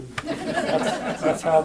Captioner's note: laughter